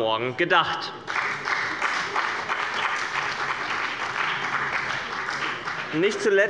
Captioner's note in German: Beifall bei dem BÜNDNIS 90/DIE GRÜNEN und der CDU